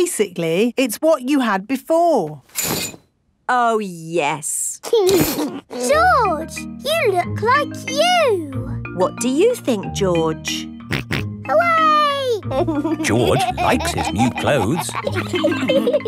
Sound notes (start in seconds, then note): 12.5 snorts and laughs